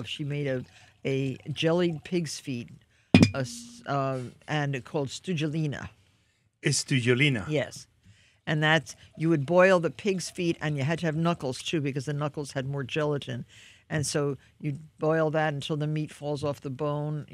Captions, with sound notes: She made a jellied pigs' feet, (bottle thuds) and called studzielina. - Studzielina. - Yes. And that's, you would boil the pigs' feet, and you had to have knuckles too because the knuckles had more gelatin. And so you'd boil that until the meat falls off the bone.